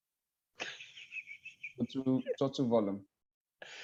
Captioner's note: laughs